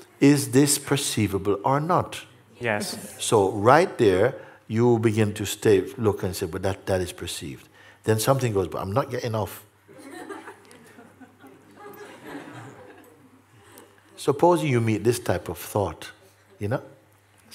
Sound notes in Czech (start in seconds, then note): 11.5 smích